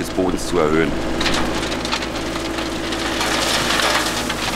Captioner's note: soft rattling, scratching noises